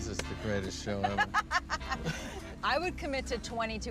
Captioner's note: Tina laughs